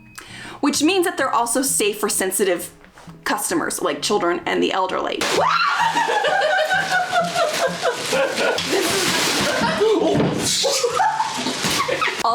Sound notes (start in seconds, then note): 5.2 man and woman guffawing; 10.8 woman guffawing